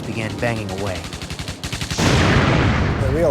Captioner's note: canons firing